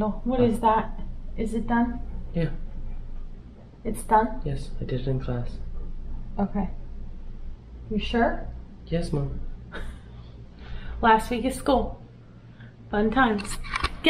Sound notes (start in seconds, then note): 9.7 laughs